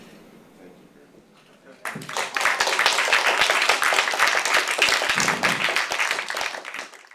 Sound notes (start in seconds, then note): 1.8 applause